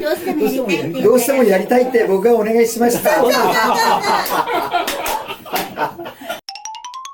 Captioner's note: laughs; nervous laughter; laughs